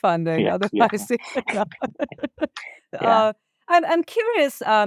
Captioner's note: chuckles